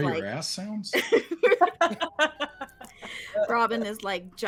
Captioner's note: group laughs